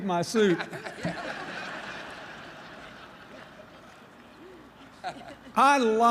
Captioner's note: laughter